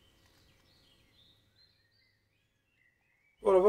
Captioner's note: bird song